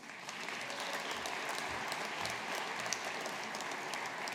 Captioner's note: audience applauding